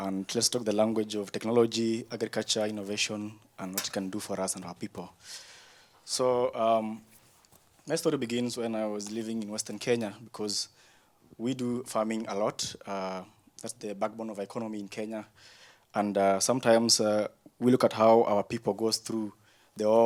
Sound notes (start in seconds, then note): none